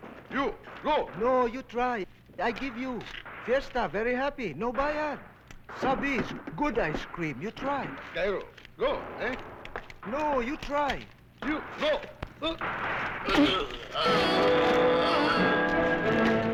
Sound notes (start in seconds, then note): 5.7 non-english; 13.2 groans; 14.0 intriguing music